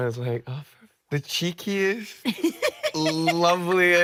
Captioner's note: laughing